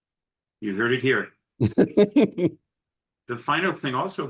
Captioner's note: laughter